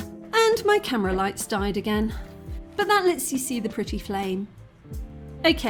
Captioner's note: sigh